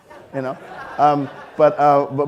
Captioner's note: audience laughing